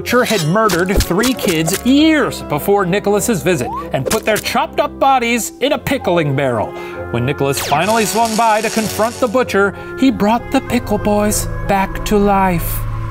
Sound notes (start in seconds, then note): 7.6 zapping